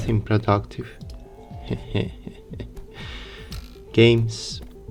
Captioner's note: shy chuckling